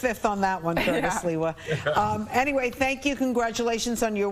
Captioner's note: laughter